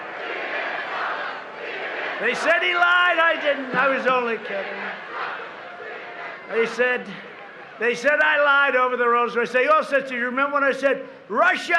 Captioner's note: crowd chanting